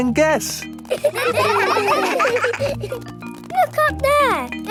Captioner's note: children laughing